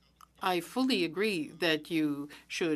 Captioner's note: speaking French